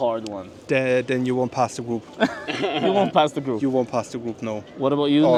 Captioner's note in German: gelächter